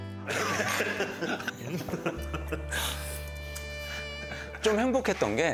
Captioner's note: the happy sounds of a man enjoying some company